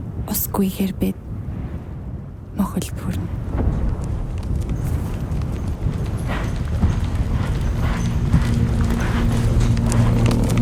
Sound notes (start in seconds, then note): 3.4 hoofs thudding